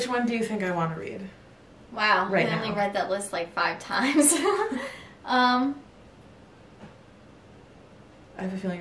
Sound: laughs

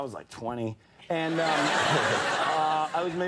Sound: audience laughing

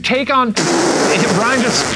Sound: blowing raspberry

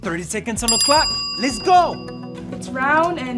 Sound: timer dinging

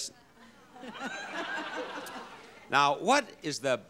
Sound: audience laughs

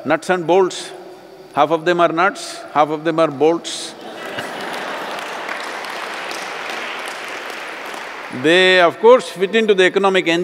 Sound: laughter/Applause

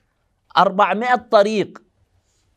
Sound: Arabic

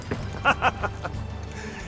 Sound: Machiavelli laughs

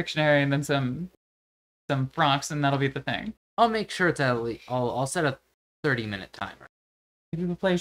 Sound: none

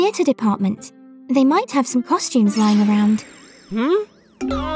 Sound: video game losing sounds

